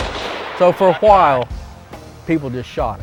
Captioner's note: gun shot